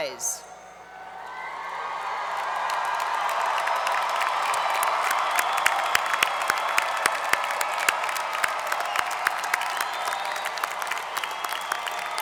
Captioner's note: applause